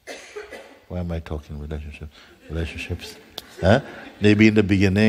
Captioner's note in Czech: smích